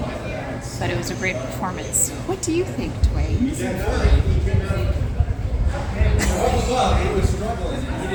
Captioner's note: laughing